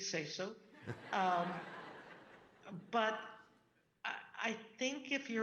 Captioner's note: audience laughing